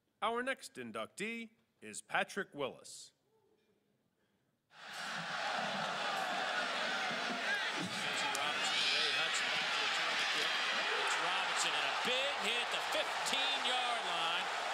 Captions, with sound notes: - [Voiceover] Our next inductee is Patrick Willis. (crowd roars) (announcer calls game) - [Voiceover] And a big hit. The 15 yard line.